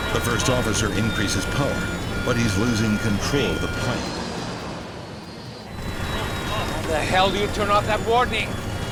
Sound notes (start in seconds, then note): 4.2 plane whines